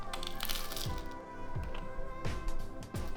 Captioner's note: crunchy bite